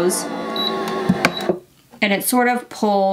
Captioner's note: press rumbling